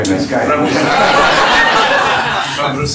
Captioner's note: laughter